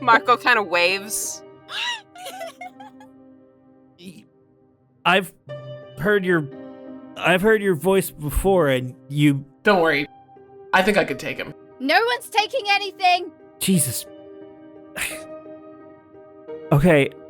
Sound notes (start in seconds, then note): 2.1 A FEW PEOPLE giggle